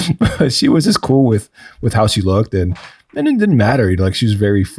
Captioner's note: chuckles